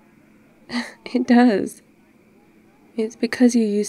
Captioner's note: laughs